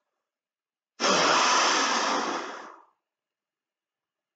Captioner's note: narrator blowing air